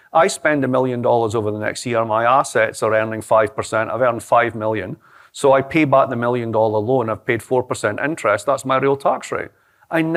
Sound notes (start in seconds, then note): none